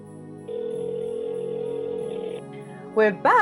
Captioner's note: telephone ringing